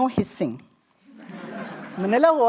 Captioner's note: laughter